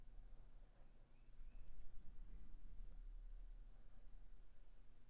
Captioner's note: bird chirping